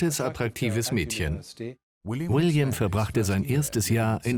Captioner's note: voiceover